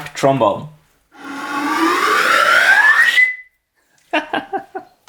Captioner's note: whistling rises in pitch; laughter